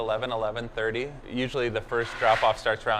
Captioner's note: rattling